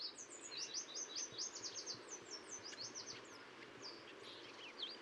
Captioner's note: bird songs and water sounds